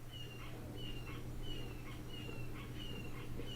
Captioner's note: red-shouldered hawk calling